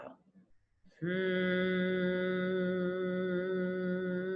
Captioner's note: humming